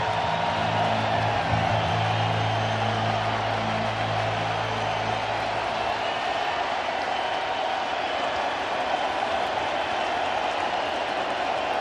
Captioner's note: applause